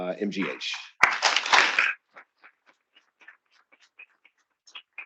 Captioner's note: attendees applauding